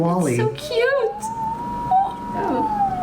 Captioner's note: machine revving